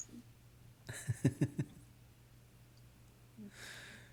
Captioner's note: laughing